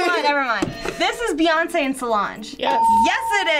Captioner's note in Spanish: suena la campana